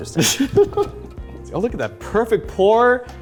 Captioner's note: laughing